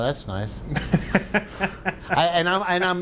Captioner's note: laughing